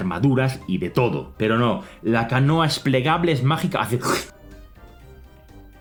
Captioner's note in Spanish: sonido de succión